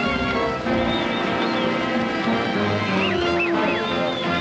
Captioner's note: cowboys whistling, yelling